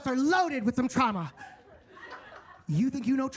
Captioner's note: attendees laughing